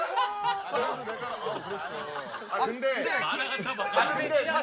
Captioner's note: hollering laugh